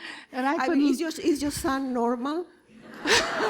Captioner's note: laughter